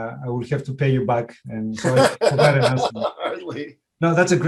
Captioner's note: laughs